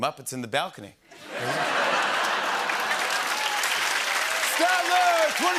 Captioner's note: laughter and applause